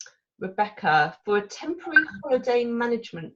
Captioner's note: computer alert pings